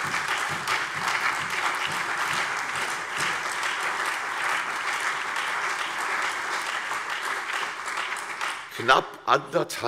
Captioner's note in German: Beifall CDU, BÜNDNIS 90/DIE GRÜNEN, AfD, Freie Demokraten und vereinzelt SPD